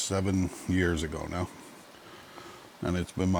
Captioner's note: none